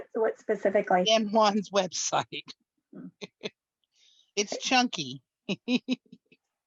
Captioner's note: laughs